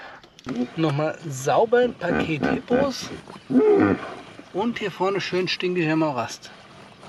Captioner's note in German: räuspern